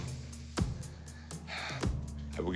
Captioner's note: sighs